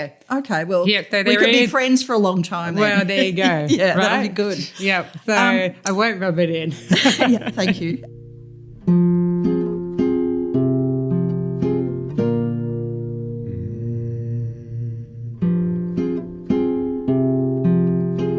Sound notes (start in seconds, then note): 2.8 laughter; 11.9 laughter